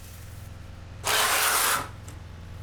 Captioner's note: scratching